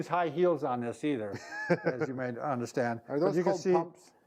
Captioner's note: chuckles